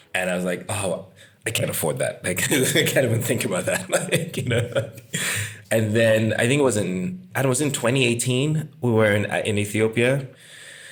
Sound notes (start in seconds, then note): 5.3 laugh